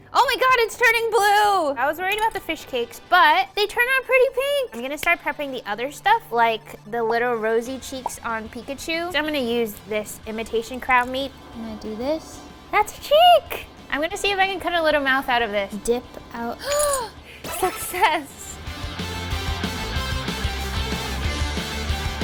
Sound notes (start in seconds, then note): 16.6 gasping; 19.3 energetic music